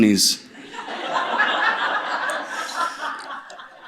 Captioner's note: laughter